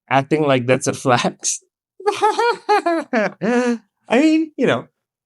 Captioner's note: laugh